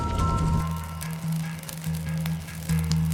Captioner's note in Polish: odgłos płonącego stosu